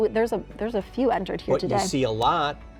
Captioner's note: laughs